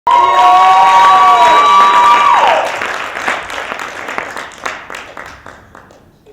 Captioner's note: applause